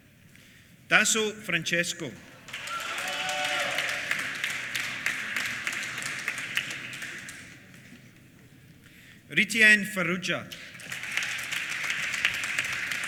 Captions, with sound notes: Dasso Francesco. (APPLAUSE) Ritienne Farrugia. (APPLAUSE)